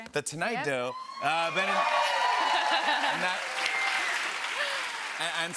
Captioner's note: cheers and applause